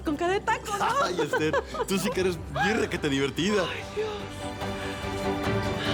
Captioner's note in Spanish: Risas